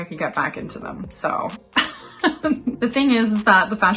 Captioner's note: laughs